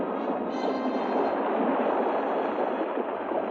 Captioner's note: walls rumbling